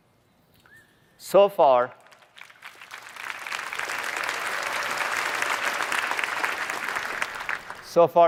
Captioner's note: applause